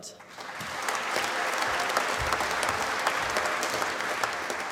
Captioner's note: applause